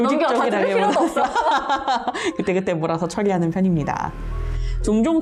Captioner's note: laughs